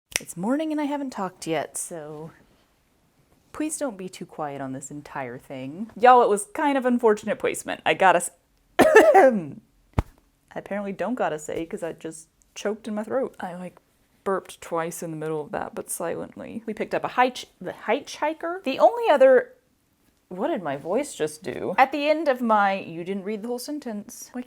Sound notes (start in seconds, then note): 8.8 coughs